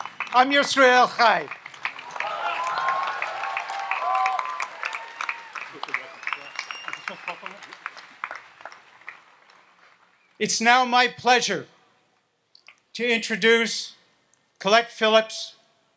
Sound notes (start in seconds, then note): 2.6 audience applauds and cheers